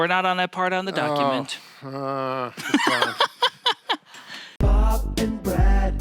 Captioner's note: laughs